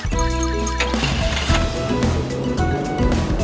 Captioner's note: car engine starting